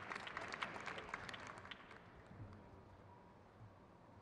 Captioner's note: crowd cheers